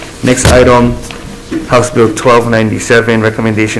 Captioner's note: gavel bangs